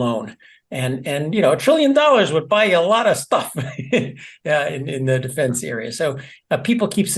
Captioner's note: laugh